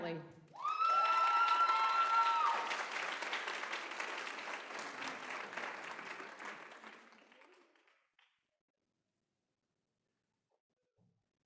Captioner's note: applause